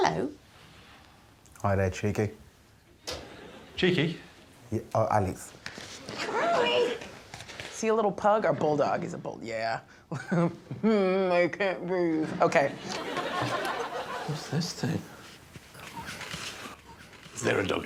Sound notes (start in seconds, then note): 3.2 audience tittering; 6.7 envelope rustling; 11.4 moans; 12.6 audience laughing